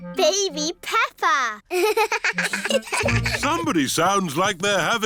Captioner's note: both laugh